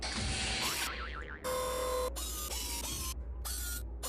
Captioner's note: whirring